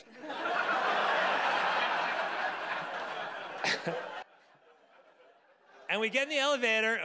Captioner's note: audience laughing